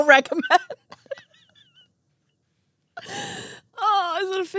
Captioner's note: laughing